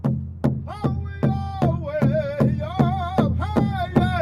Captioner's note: drums beating; men chanting